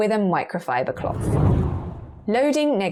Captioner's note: video effect whooshes